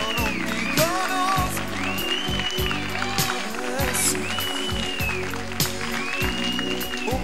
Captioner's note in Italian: Applauso